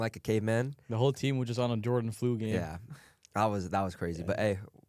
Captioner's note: laughs